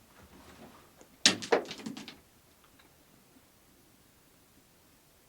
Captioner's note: rock clattering